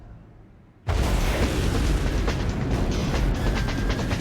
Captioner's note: rocket booming